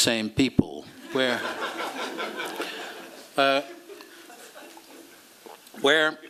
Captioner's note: laughter